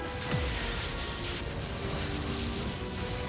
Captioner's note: zap